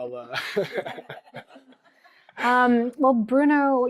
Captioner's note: laughter